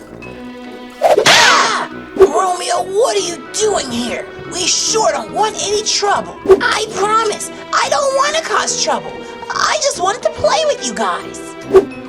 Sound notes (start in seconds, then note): 1.2 screams